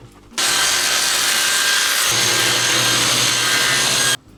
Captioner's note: electric saw cutting